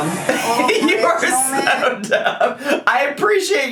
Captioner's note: laughs